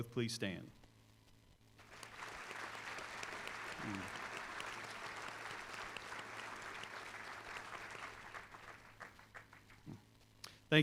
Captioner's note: applause